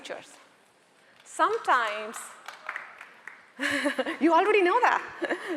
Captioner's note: audience member clapping